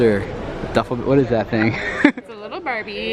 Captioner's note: laughs